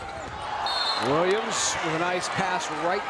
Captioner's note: whistle blows